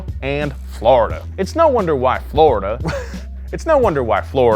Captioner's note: laughs